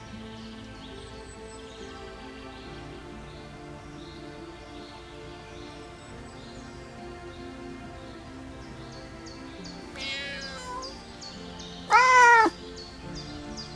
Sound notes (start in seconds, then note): 0.1 soft violin music playing in the background; 9.9 cat meows